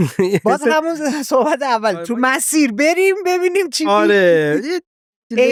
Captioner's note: laughs